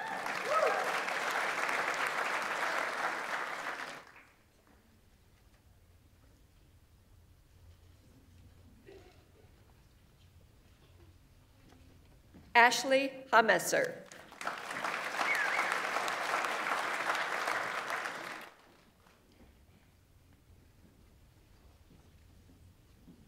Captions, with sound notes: (audience applauds) (audience members cheer) Ashlee Haumesser. (audience applauds) (audience members whistles)